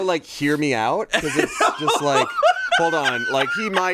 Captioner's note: laughs